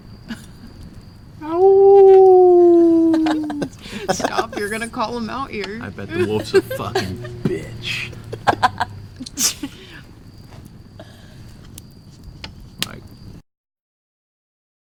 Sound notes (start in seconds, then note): 1.4 aullando; 2.6 el grupo ríe; 8.3 riendo